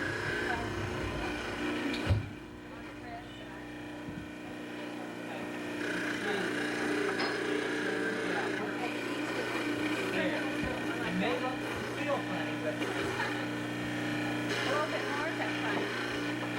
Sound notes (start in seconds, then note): 12.4 laughs